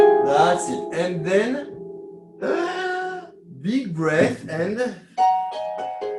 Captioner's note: breathing in